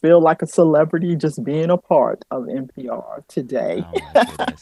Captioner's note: laughter